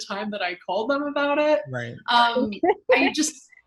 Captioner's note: laughs